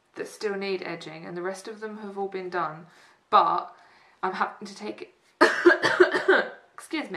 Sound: cough

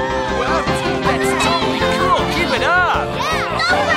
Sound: crowd cheering

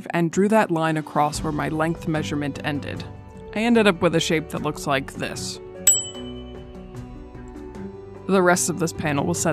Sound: ding!

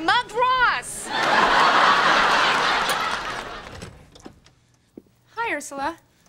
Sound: background laughter

